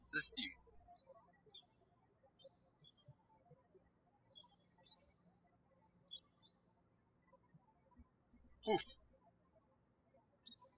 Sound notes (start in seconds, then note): 2.5 birds chirping; 10.1 birds chirping